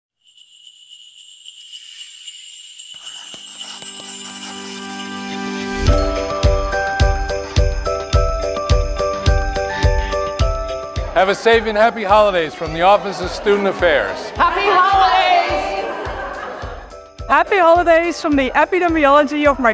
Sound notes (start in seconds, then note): 0.0 bells ringing; 1.7 graphic scratching; 3.6 bright music